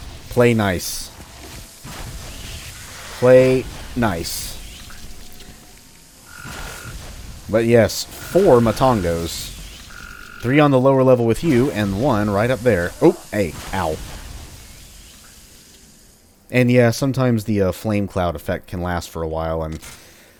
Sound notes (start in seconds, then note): 0.8 fwoosh; 11.6 fwoosh; 13.5 fwoosh